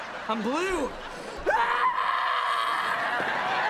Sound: screaming

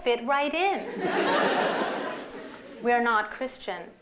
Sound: laughter

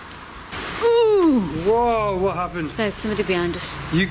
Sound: gasps

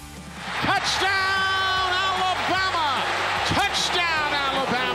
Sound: radio Announcer

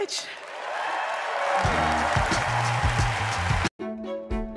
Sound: cheering

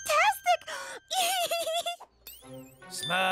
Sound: laughing

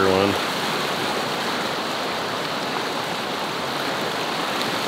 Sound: water rushing

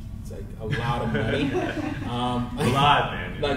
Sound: crowd laughs

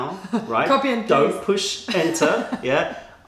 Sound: laughter

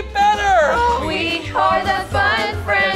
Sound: groans

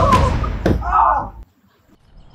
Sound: head thud

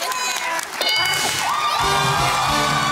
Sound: bell dings; theme music playing

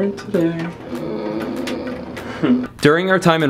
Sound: groans

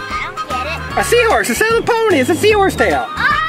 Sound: voiceover

